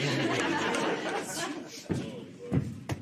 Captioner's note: laughter